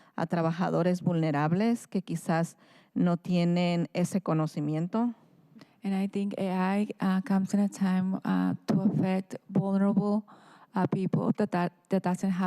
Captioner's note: speaking in spanish